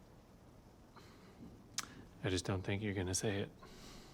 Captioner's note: clicks tongue